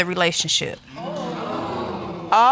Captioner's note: audience exclaiming